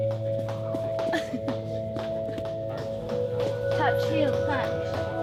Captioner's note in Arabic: يضحك